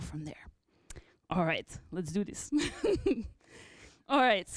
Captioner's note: laughter